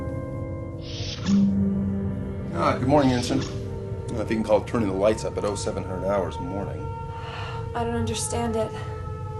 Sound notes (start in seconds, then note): 0.7 doors open